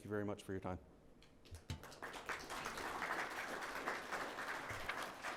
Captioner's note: audience applauds